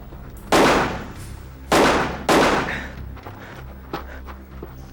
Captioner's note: gunshots booming